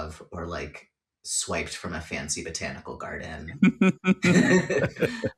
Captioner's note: laughter